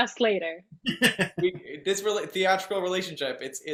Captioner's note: laughing